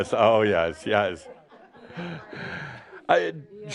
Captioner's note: chuckles